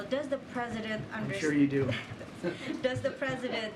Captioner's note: laughter